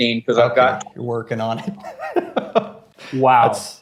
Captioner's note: laughs